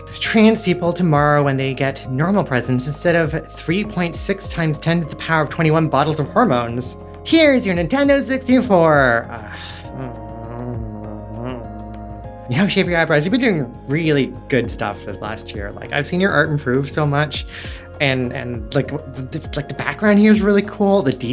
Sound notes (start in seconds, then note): 9.2 groan